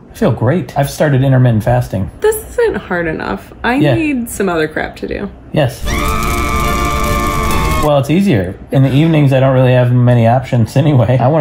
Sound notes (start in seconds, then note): 5.8 screams loudly